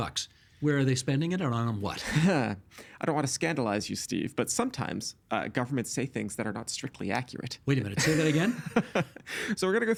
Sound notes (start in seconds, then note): 2.2 sighing; 8.0 laughing